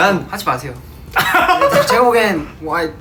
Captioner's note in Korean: 폭소